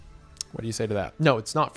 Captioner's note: clicks tongue